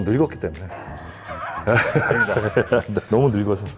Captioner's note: tries to hold back laughter